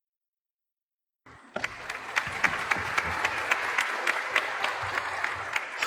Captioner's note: audience clapping